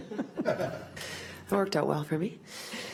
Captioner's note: laughs